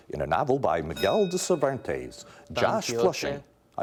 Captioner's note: bell dinging